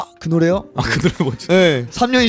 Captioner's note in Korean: 웃음